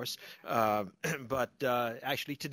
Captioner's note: laughter